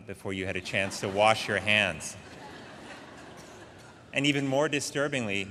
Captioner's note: audience laughing